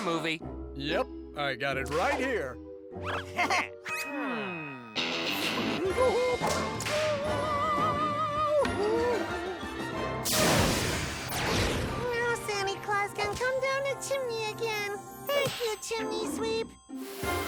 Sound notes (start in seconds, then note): 3.1 both giggle; 5.4 screeches to a tune; 10.3 whoosh-ray fires